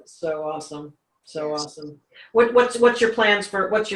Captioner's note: laughs